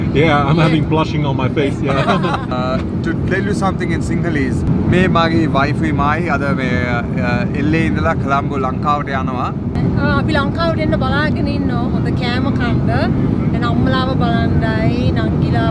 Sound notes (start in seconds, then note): 1.6 laughs; 5.3 speaks in Sinhalese